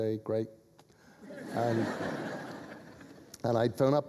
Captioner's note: laughter